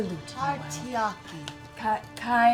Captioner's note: mispronouncing